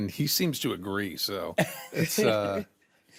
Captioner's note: chuckles